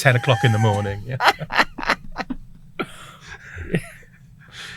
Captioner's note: all laugh